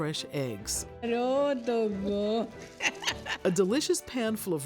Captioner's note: speaking in greek